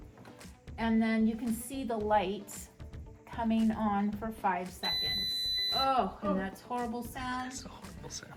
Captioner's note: beep